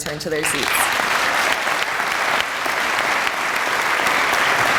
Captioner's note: audience applauding